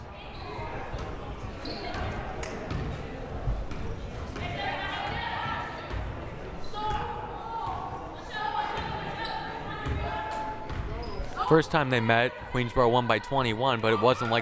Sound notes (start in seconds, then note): 0.8 crowd murmuring; 4.5 players shouting